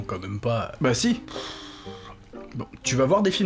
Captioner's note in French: soupir